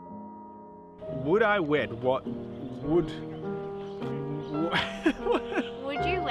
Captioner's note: laughing